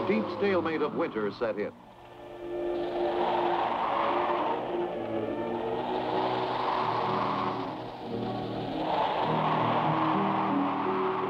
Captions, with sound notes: The deep stalemate of winter set in. (orchestral music) (wind howling)